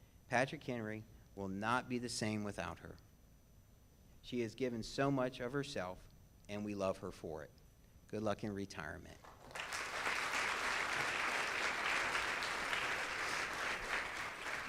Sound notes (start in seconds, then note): 9.2 audience claps